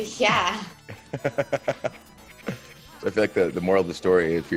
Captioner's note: laugh